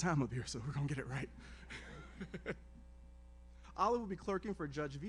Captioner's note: laughs